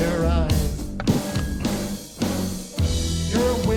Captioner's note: microphone feedback